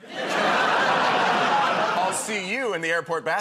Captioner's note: laughter